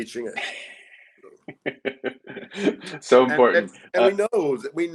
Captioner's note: laughs